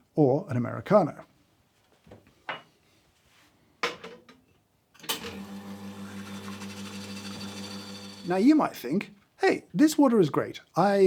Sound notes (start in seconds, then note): 5.1 coffee machine humming